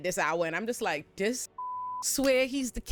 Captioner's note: beep